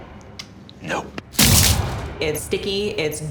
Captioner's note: blood smashes